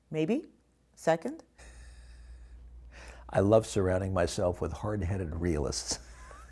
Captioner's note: laughter